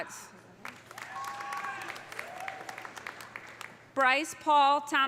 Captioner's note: audience applauding; audience cheering